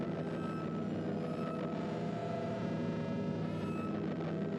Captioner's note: none